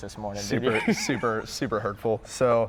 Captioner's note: laughs